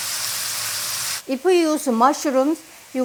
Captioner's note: pan sizzling